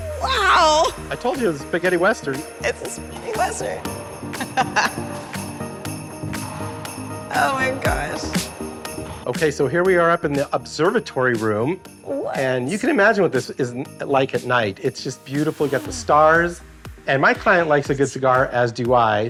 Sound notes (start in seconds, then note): 4.3 laughs